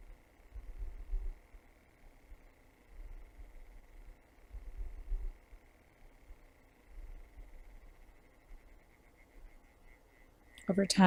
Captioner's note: silence